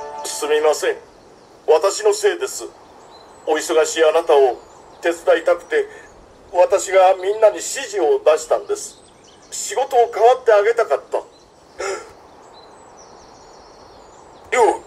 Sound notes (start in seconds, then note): 11.8 sth gasps